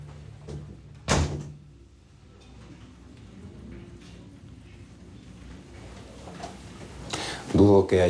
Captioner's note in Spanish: Sonido al cerrar la puerta